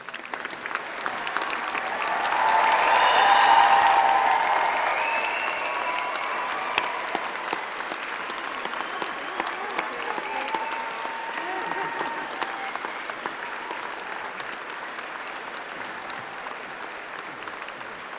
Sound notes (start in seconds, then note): 8.4 applause